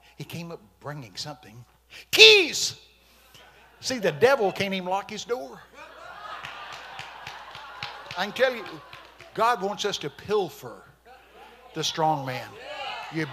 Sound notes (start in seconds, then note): 5.2 congregation laughing; 6.2 congregation clapping